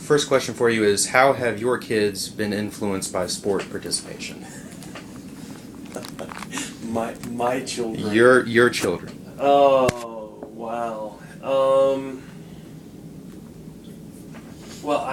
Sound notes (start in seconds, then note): 5.8 chuckles